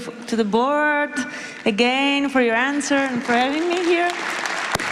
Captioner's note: applause